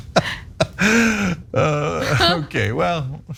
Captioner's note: laugh